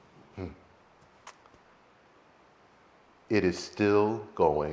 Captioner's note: chuckles